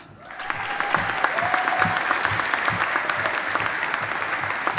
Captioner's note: audience applauding